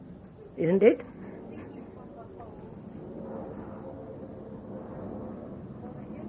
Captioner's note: sound of aeroplane